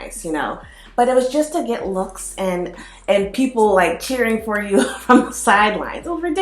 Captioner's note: chuckles